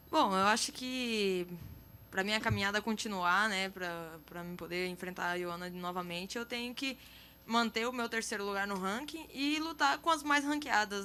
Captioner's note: speaking in foreign language